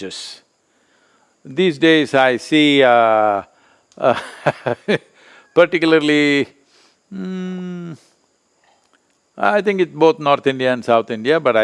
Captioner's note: laughs